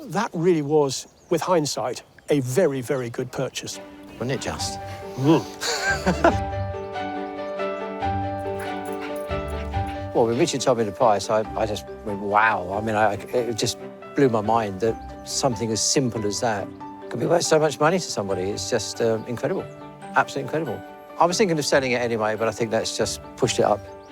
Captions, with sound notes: that really was, with hindsight, a very, very good purchase. Wasn't it just? - Mmm! (LAUGHS) Well, when Richard told me the price, I just went, "Wow." I mean, it just blew my mind that something as simple as that could be worth so much money to somebody. It's just incredible. Absolutely incredible. I was thinking of selling it anyway, but I think that's just pushed it up.